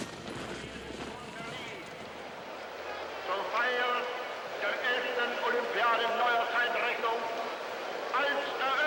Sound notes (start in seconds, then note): 1.6 speaking in foreign language